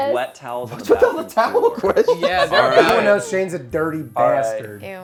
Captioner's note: overlapping chatter